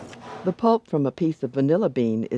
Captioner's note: voiceover